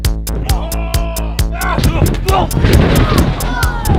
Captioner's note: yelling